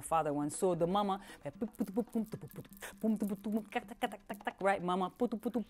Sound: voicing drumming sounds

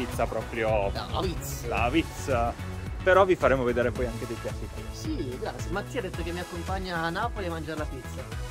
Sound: bad Neapolitan accent

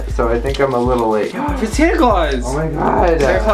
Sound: gasps

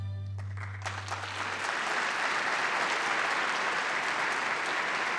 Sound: applause

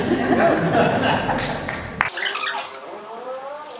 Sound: laughter

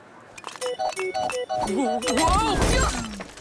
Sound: circus music playing; thudding

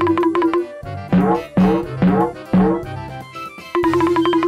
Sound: xylophone sound effect; cartoon boing sound effect; various cartoon sound effects

